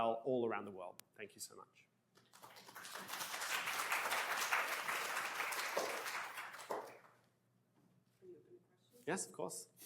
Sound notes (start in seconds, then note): 2.2 applause